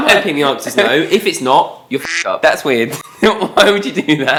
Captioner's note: quack sound